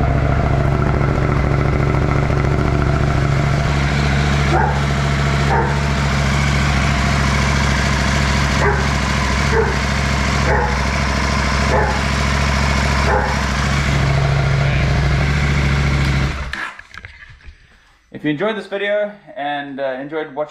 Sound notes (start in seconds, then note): 8.4 dog barking